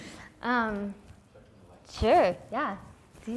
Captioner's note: voiceover